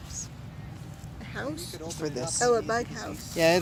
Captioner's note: whispering